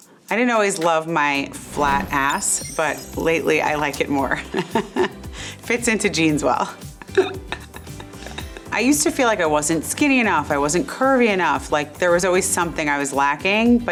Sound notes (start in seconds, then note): 4.4 chuckles; 6.9 chuckles